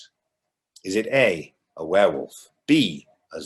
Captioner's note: none